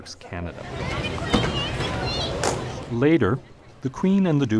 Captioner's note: crowd noise